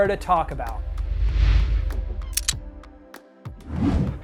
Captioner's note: air whooshing